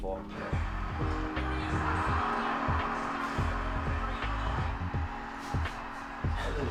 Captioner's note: relaxing music; video game crowd cheers